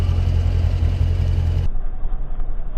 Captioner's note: engine running